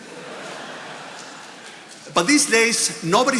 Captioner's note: attendees laughing